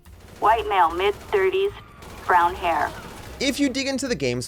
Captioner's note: police Radio